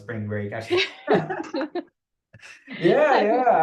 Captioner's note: laughter